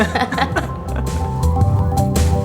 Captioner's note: laughing